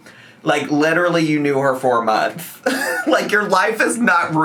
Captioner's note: laughs